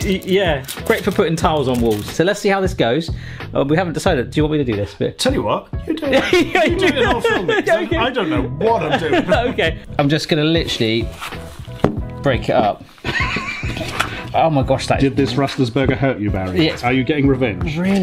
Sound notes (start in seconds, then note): 5.9 laughs; 13.0 laughs